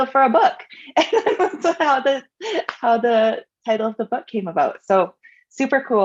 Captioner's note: laughs